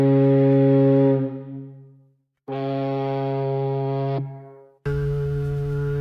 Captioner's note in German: Schiffshorngeräusch